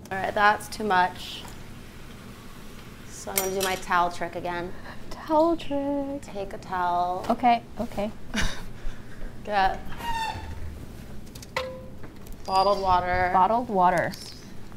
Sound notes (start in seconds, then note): 7.9 laughs